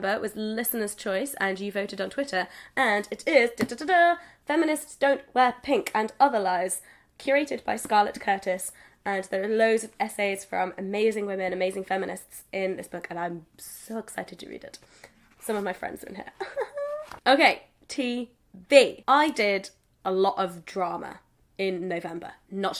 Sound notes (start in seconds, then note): 16.4 laughs